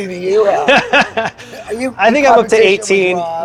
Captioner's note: laughing